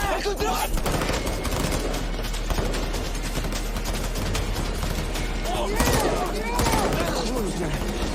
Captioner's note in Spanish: Disparos